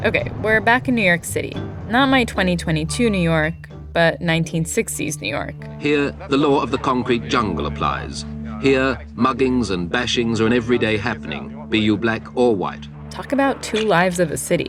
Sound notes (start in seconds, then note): 3.5 soundbite of archived recording; 13.1 soundbite of archived recording